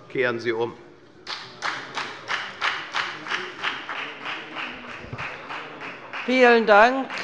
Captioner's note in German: Beifall bei der FDP